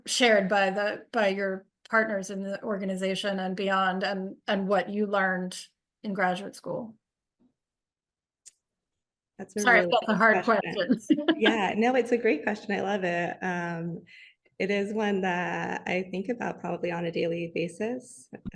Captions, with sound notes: shared by your partners in the organization and beyond and what you learned in graduate school? - That's a really- - Sorry, I've got the hard questions. (chuckles) - Yeah, no, it's a great question. I love it. It is one that I think about probably on a daily basis.